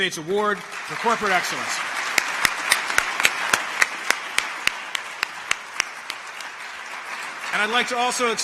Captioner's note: applause